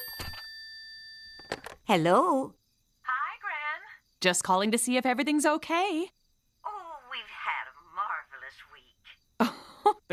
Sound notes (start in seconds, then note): 0.0 rings; 9.4 chuckles